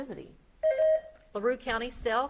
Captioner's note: beep buzzing